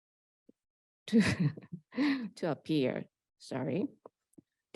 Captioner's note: laughs